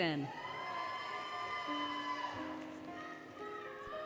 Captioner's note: applause, Cheering, Music